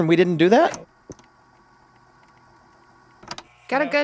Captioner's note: camera buzzing